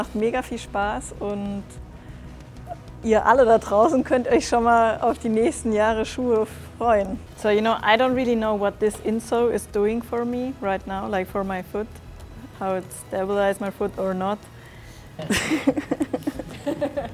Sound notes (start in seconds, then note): 15.2 laughing